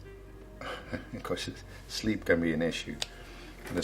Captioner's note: chuckles